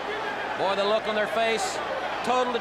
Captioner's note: crowd chatter